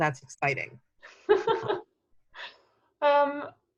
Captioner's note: laughing